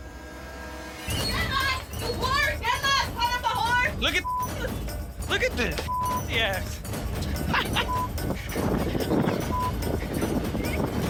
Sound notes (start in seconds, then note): 0.9 clerk shouting; 7.2 man laughs